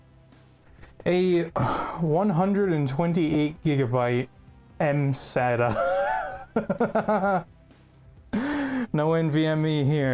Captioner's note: laugh